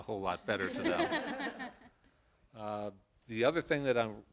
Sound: laughter

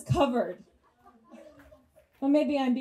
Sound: audience chuckles

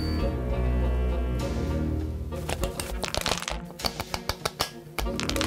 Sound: batteries shaking

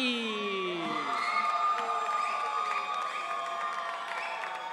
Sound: audience cheering

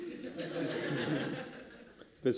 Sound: laughter

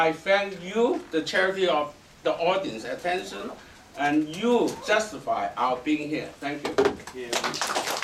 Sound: applause

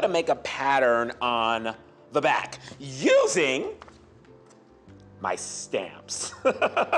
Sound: laughing

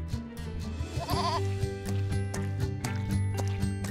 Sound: bleating

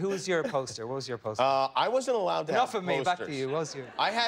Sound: laughter

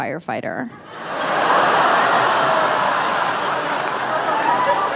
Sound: audience laughing

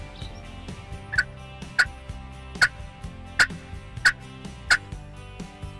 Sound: imitating turkey gobbling

